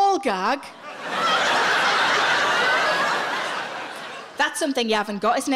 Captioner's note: audience laughing